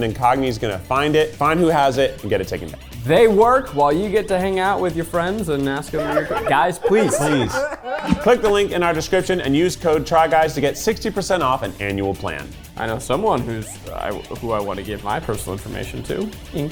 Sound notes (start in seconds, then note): 5.8 laughing